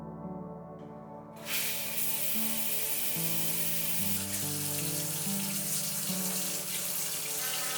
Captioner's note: water flowing sound; electric toothbrush sound; water flowing